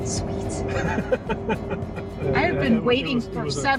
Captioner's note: laughing